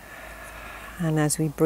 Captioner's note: exhaling